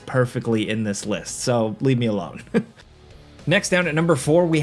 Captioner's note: chuckles